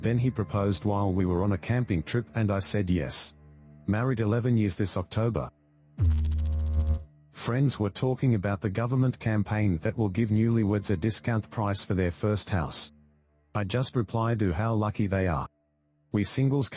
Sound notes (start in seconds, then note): 6.0 electrical noise